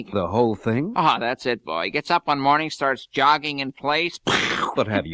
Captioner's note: imitates explosion